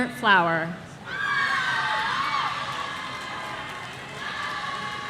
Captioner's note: audience cheering